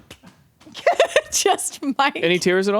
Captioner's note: laughs